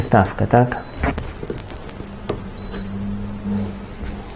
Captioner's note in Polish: beep beep